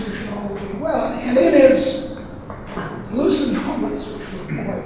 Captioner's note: rustling drowns out speaker